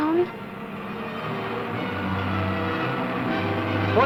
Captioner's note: cars rumbling